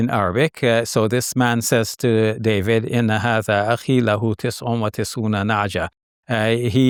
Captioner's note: speaks a foreign language